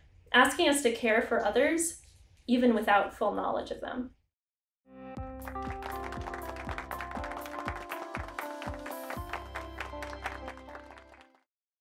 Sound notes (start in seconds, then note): 5.1 upbeat music; 5.4 hands clapping